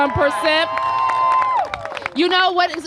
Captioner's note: applause